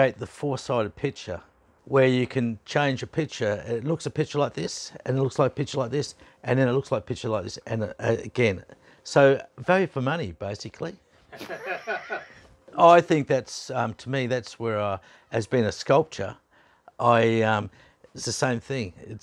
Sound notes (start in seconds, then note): 11.3 laughing